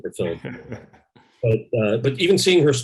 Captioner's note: laughs